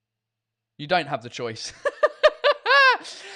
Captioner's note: laughs